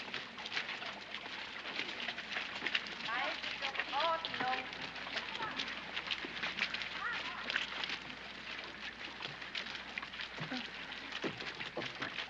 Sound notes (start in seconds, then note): 0.0 sloshing